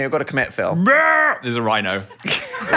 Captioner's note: Phil imitating rhino